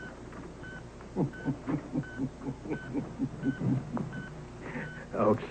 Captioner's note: HB chuckles